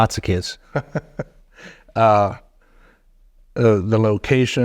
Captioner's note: chuckling